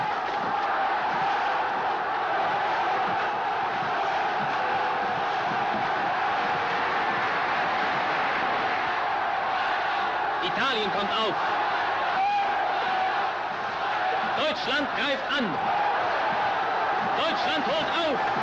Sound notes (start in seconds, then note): 0.1 crowd cheering; 10.0 speaking german